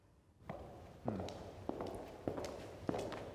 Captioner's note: footsteps